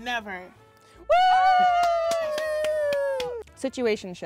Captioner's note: cheers